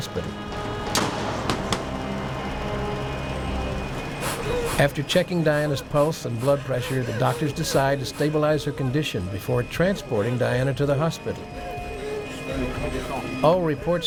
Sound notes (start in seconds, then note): 3.7 ambulance door shutting; 9.1 Diana hyperventilating